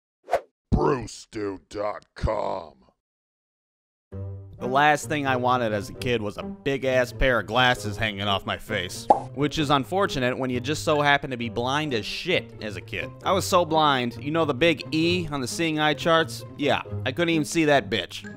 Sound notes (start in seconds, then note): 9.0 pop